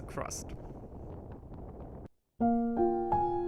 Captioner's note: wind whooshing; upbeat music